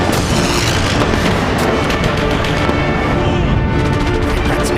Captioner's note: guns firing